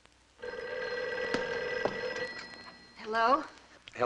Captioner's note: phone ringing